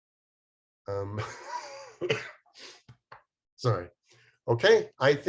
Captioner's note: coughs